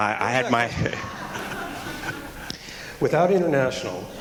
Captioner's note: laughter